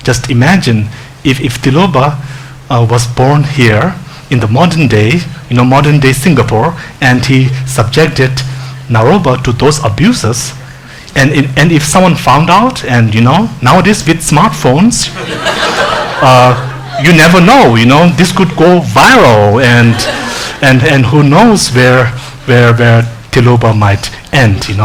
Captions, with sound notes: Just imagine if Tilopa was born here in the modern day, in a modern-day Singapore and he subjected Naropa to those abuses, and if someone found out, and, you know, nowadays with smartphones. (laughing) You never know, this could go viral, and who knows where Tilopa might end.